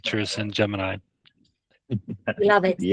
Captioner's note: laughs